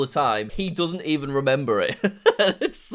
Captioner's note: laughs